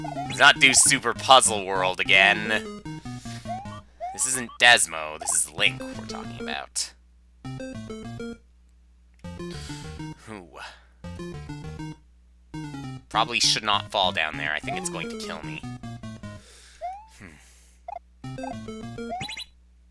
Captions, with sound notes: Let's not do Super Puzzle World again. This isn't Desmo. This is Link we're talking about. (*breathing*) I probably should not fall down there. I think it's going to kill me. (*breathing*)